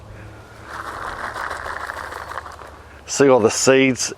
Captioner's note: seeds rattling